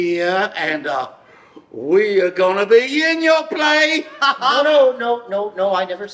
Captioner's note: laughs